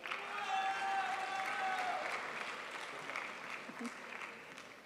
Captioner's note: crowd applauds